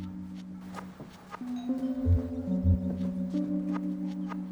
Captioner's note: doorbell ringing